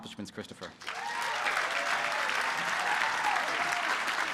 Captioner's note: applause